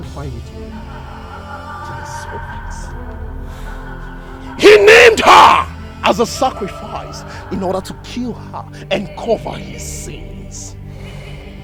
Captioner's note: screaming